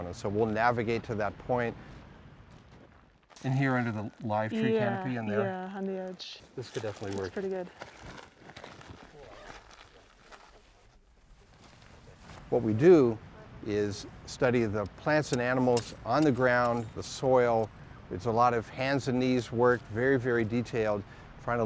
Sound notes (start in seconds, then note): 7.4 feet stomping